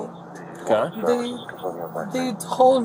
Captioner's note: radio chatter